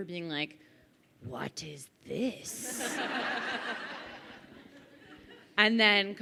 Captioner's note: crowd laughing